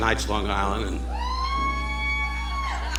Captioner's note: audience members whooping; audience laughing